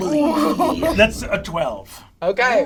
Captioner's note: laughs